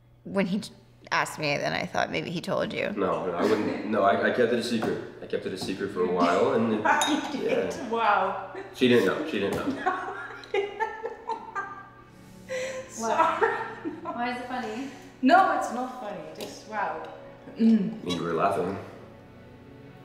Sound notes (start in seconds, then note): 8.5 laughs